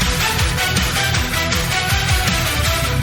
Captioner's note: none